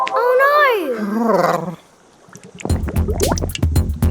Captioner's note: Big Lizard moans; upbeat music